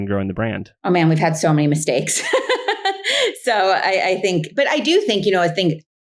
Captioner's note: laughs